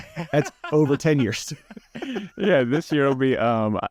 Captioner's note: laughs